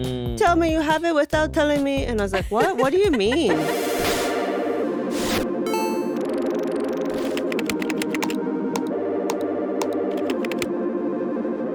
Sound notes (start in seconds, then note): 5.6 soft ambient music; 7.5 keyboard tapping; 9.8 mouse clicking